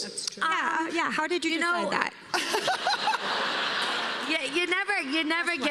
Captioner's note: laughter